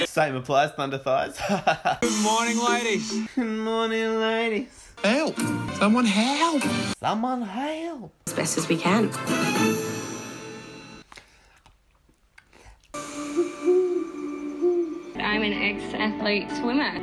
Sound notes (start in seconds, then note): 11.0 licks lips; 13.2 owl sound effect; 16.8 whispers